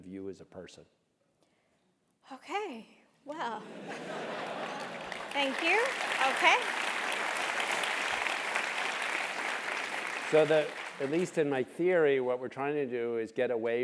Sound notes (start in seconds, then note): 3.7 laugh; 7.5 applause